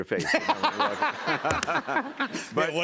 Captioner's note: laughter